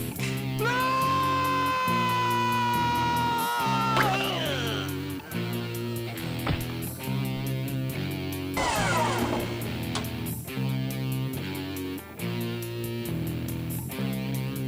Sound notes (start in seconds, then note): 4.1 gurgles; 8.9 dumbwaiter groaning; 12.0 tense music